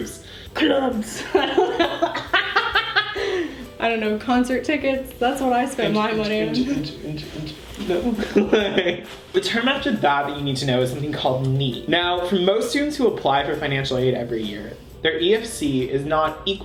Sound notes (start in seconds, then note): 1.2 laughing; 6.5 imitating beat of club music; 8.0 laughing